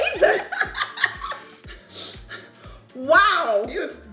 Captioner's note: laughing